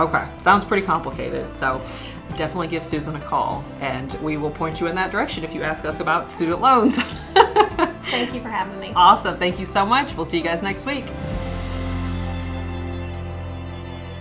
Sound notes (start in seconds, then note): 6.9 laughing; 11.4 gentle music